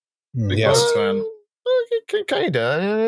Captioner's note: high-pitched vocal sound; high-pitched almost-humming stammer